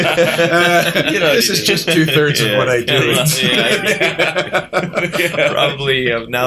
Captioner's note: laughter